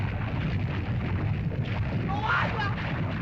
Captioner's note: lava bubbles & flows